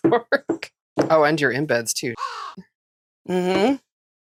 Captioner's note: caw